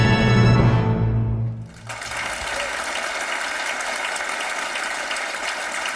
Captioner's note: audience applauding